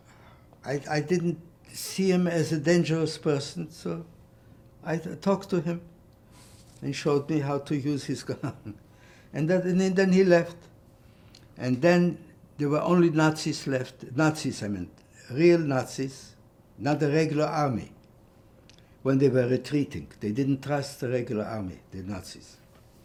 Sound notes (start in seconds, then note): 8.4 laughing